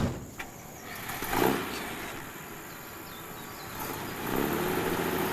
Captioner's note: truck engine revs